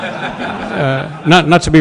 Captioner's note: laughter